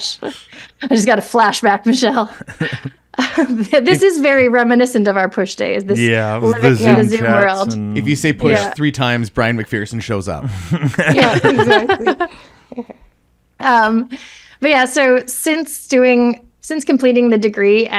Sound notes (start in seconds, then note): 10.4 laughs